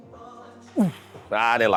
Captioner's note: grunts